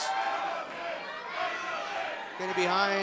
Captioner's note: crowd cheering